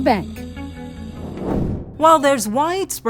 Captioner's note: screen whooshes